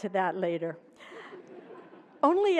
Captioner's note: laughter